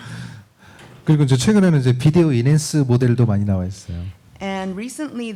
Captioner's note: speaking korean